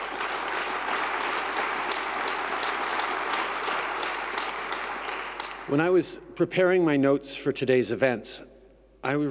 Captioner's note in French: Applaudissements